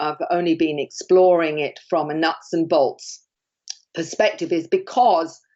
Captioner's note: smacks lips